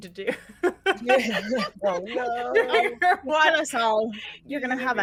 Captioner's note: group laughs